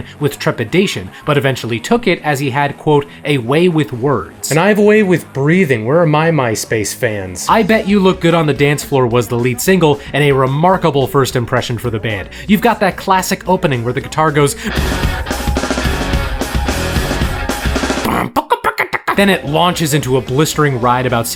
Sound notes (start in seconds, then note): 14.5 rock guitar music; 17.7 mic mimics guitar playing